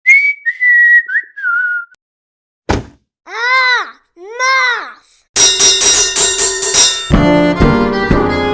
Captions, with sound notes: [whistles] [thump] Aaaaaah! Math!